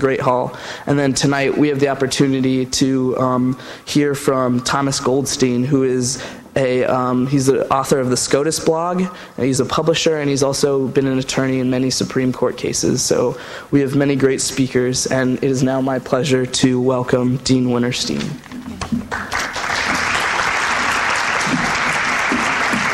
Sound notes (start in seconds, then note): 19.1 applause